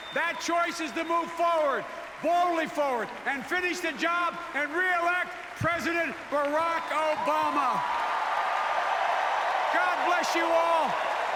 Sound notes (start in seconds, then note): 7.9 applause